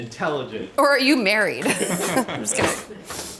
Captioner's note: laughs